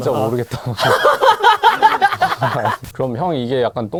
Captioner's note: laugh